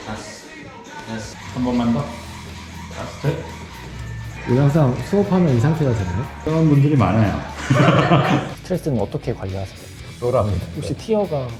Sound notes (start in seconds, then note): 7.5 laughs; 10.3 laughs